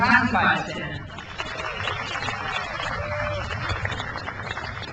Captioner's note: crowd applauds